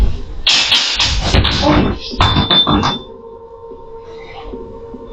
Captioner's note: glass falls